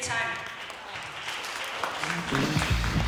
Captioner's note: applause